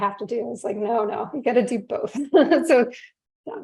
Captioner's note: chuckles